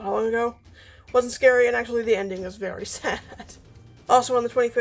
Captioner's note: laughs